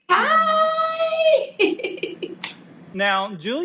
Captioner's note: laughing